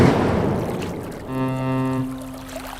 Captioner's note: ferry horn blows